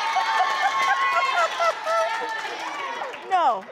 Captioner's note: cheering; laughing